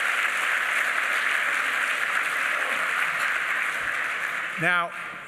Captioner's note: applause